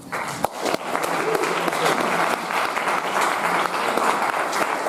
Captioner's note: audience applauding